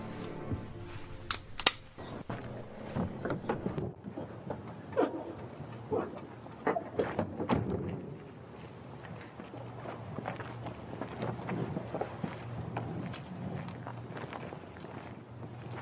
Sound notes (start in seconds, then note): 1.2 gun clicks; 6.7 door slams